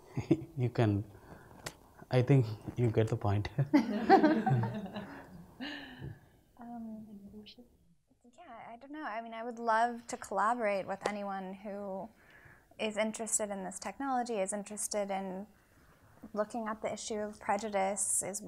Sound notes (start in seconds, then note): 0.1 chuckles; 3.7 people laughing